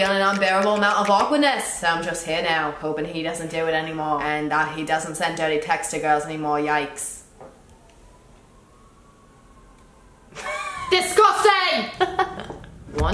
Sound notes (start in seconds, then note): 11.9 laughs